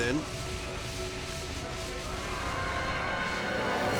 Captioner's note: extinguisher spraying; tense dramatic music